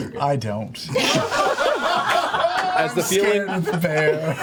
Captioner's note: laughter